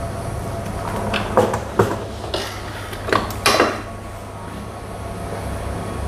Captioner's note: press machine sound